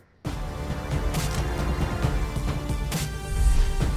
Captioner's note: Camera clicks